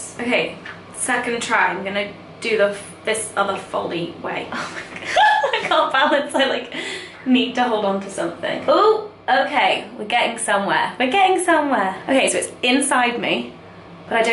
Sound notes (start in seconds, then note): 4.6 laughs